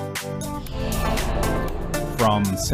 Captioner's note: upbeat music; air whooshing